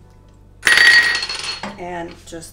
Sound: plate crashing

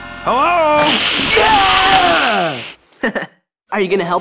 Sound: Jake yells; Marceline hisses; Finn laughs

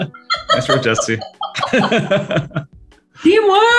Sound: laughing

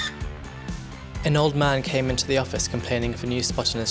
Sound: voiceover

